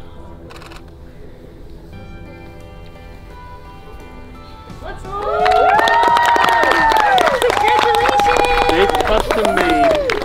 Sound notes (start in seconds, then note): 0.5 camera shutter clicks; 5.0 cheers, applause